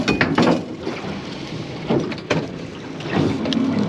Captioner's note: clattering